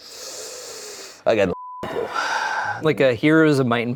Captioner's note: beep